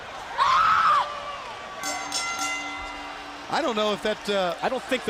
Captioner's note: crowd cheering; bell ringing